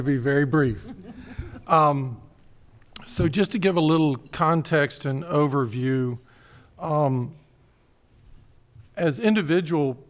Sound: laughter

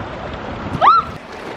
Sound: screams

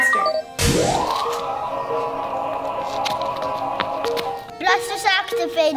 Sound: electrical beeping; blaster charge sounding

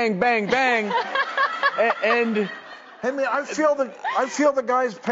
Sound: audience laughing

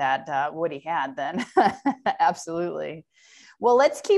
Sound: laughter

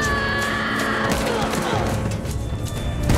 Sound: screaming; groaning

